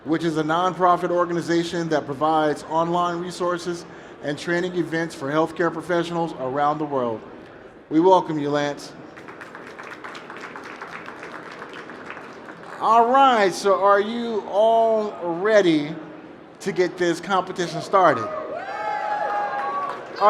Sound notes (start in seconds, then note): 9.1 applause; 18.2 cheering